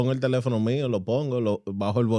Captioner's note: speaking Spanish